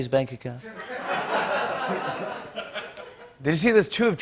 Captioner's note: laughter